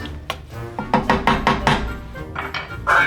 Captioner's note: bang, bang, bang